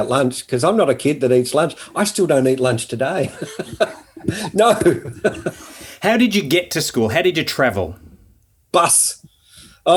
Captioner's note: laughing